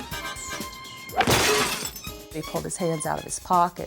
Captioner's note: upbeat music; glass thudding and shattering